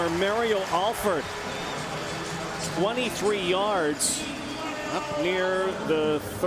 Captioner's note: cheering